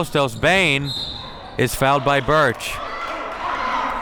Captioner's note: whistle blows